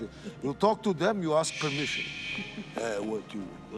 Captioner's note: man shushes